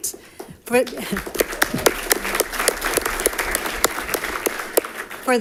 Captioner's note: audience applauding